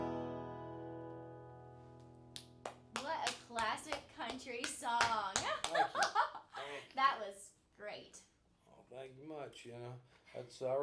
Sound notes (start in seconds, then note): 2.4 applauding; 5.4 laughing